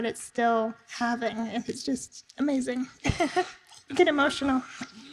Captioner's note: laughs